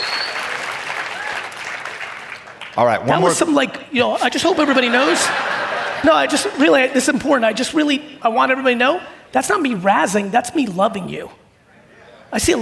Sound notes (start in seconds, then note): 4.4 audience laughing